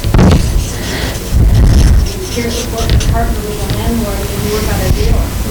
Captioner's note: students mumbling